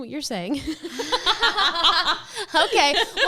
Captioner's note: women laughing